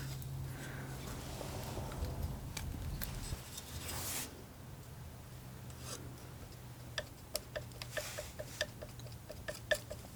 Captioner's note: tapping